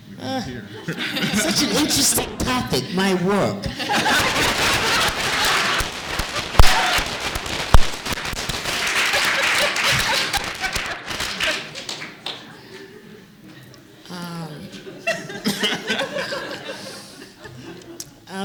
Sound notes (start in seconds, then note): 3.6 laughter; 5.7 applause